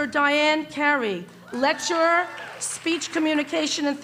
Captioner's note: cheering